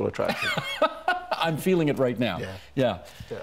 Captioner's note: laughing